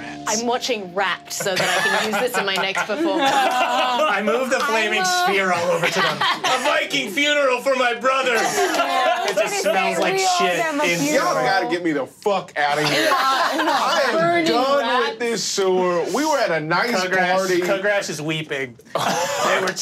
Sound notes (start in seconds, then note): 1.3 all laughing; 12.7 all laughing